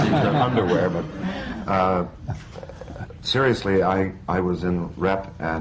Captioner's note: laughter